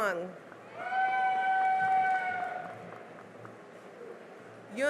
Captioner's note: cheering and applause